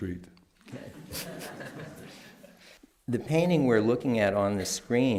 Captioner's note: laughter